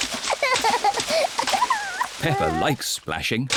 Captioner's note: giggles